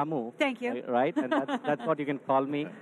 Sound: laughs

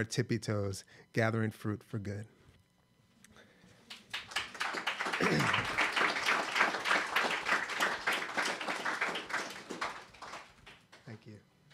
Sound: applause

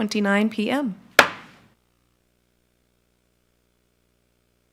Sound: gavel strikes

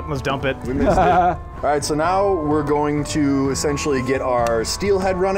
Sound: off screen laughter

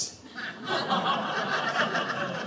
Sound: audience laughing

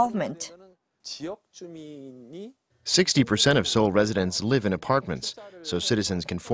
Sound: Korean

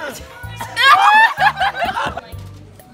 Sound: screaming & laughter

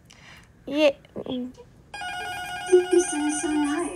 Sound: buzzer ringing

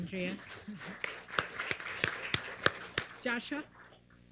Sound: applause

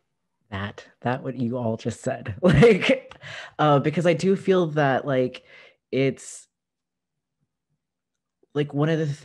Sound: laughter

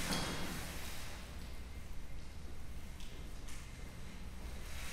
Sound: metal clanging

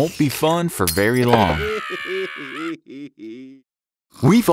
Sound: chokes

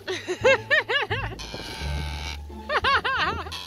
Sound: laughs

